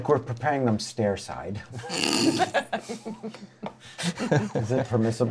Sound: laughter

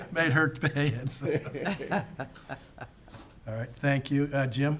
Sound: laughing

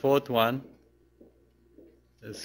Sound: pause

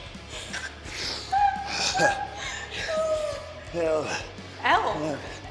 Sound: laugh

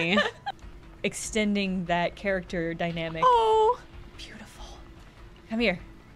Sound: whispered

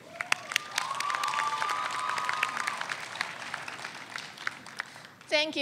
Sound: audience cheers

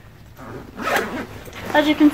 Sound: zipping

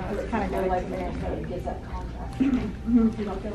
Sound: chattering

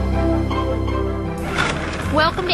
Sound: motor starts

